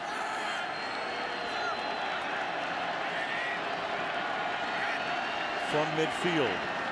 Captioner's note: cheering